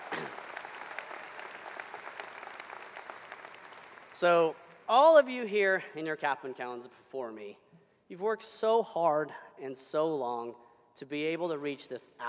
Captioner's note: applause